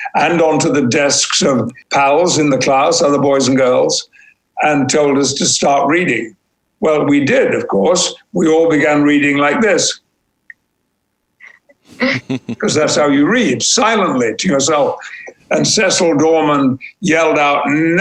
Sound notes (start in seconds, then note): 11.4 chuckling